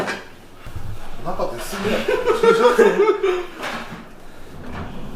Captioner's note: laughs